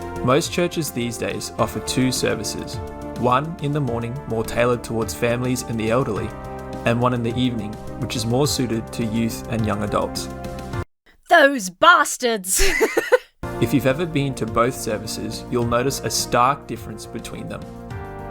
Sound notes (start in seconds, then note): 12.2 laughs